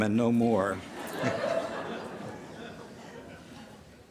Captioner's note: laughter